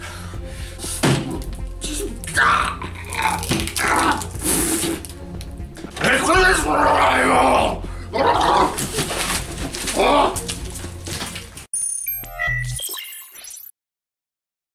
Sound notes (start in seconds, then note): 2.8 very aggressively bites an onion; 8.2 Nixon noises